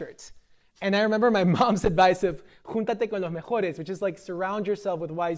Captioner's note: speaking spanish